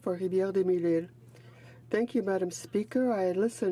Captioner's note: speaking in French